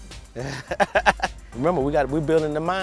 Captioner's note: laughing